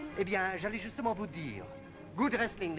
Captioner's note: speaking in foreign language